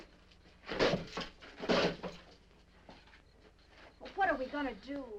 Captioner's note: insects chirping